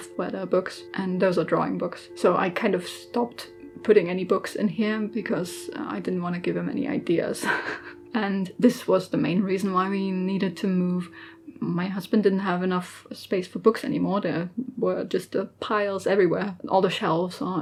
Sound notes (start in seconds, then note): 7.4 laughs